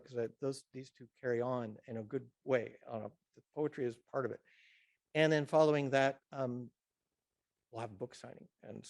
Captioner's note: none